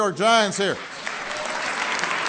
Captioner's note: applause